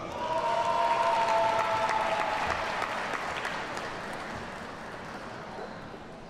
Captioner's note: audience cheers and applauds